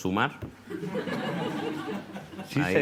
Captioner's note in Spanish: Risas